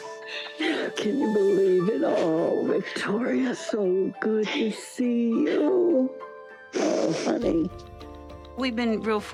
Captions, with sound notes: Can you believe it? Oh, Victoria, so good to see you. -[sniffling] -Oh, Honey. We've been real fortunate